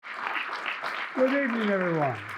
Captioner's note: crowd applauding